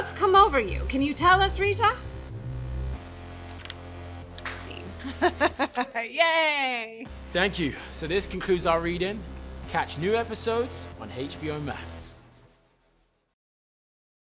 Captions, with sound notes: Scene. (CHUCKLES) Yay! Thank you. So this concludes our reading. Catch new episodes on HBO Max.